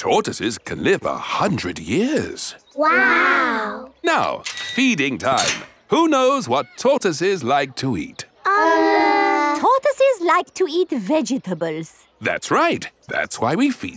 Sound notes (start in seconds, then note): none